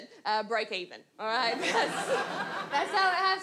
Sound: audience laughs

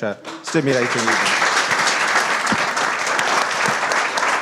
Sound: everybody applauds

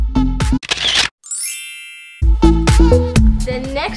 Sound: camera click; chime

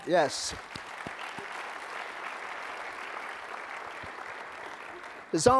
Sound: applause

